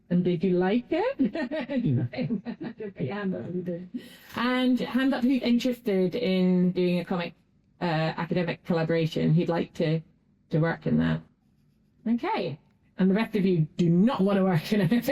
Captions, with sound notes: And did you like it? [Laughing.] And hands up who's interested in doing a comic-academic collaboration? Who'd like to work in that? Okay. And the rest of you do not want to work in it.